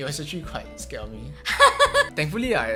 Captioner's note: laughs